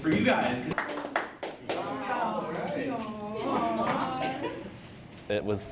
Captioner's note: cheering and group chatter